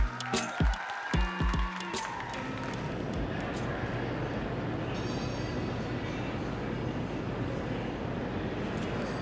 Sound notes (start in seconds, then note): 5.2 crowd noises